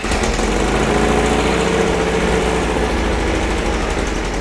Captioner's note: engine roaring